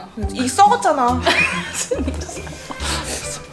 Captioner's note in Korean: 웃음